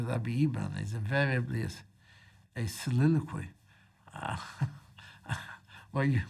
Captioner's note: chuckles